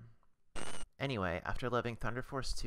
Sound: static

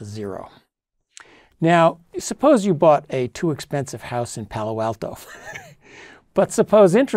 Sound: laugh

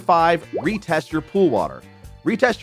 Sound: graphics popping

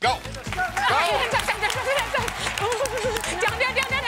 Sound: audience cheers

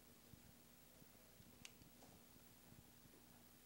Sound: timer click

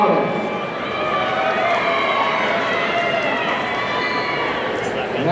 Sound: audience cheering

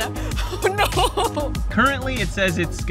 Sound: laughs

